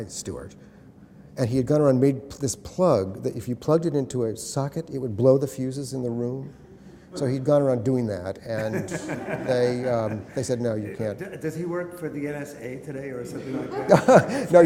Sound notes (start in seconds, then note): 8.5 laughter